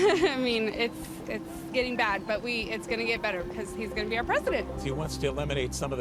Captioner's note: laughs